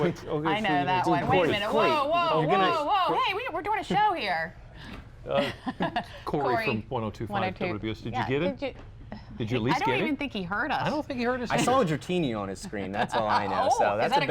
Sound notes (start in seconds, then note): 5.3 laughter